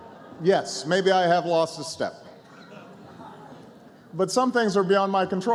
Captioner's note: laughter